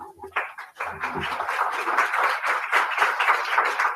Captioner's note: applause